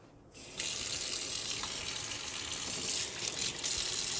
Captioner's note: water splashing